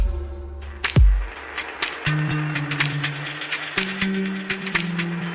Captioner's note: applause